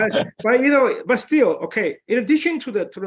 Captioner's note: chuckles